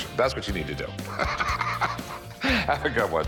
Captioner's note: laughs